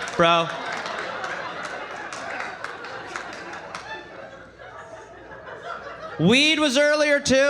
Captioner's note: laughter